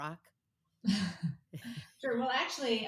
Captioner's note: both chuckling